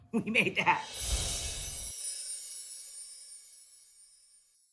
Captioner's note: chimes tinkling